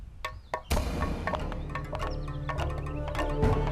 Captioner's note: banging